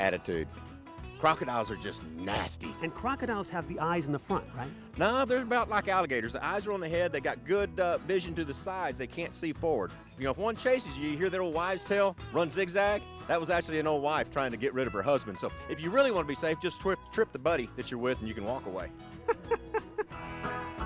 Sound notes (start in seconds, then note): 19.1 laughs